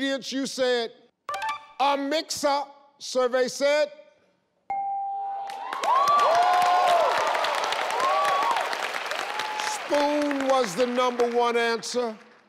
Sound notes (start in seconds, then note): 4.7 bell rings; 5.4 applause